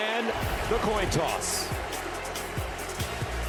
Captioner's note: cheers and applause